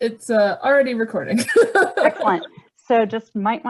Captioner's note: laughs